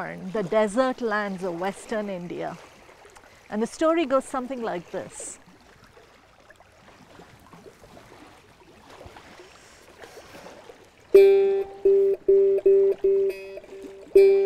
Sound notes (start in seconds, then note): 5.5 water lapping rocks; 11.1 instrument strumming